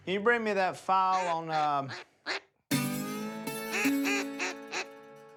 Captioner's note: quacking